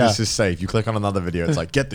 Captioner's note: Garnt laughing